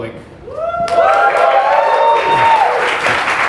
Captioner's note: applause